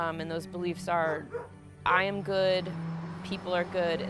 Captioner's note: dog barking